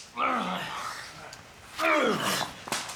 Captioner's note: film slate claps; grunting